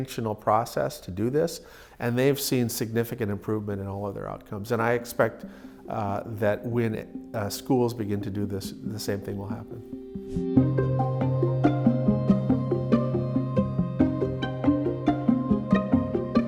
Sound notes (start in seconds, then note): 10.3 air whooshes; 10.3 gentle music